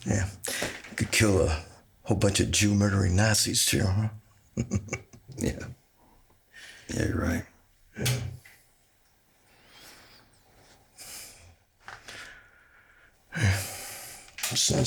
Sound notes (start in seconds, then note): 4.5 Anderson chuckling